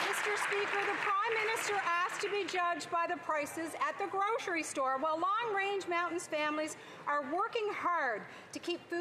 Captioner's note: applause